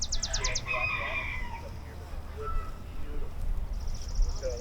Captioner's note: birds chirping; rooster crows